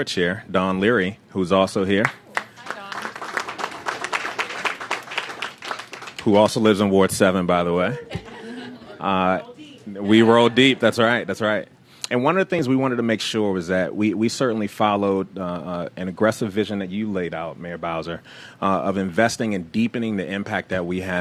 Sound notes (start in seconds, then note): 2.0 applause